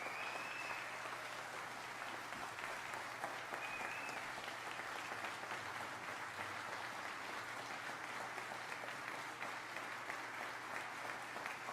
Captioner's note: applause